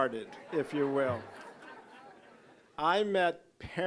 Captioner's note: audience laughing